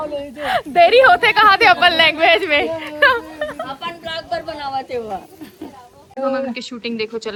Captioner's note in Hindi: हंसी